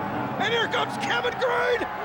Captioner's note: crowd roaring